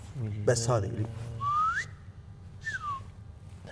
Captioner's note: whistles